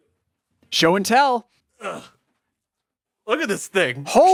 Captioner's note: grunts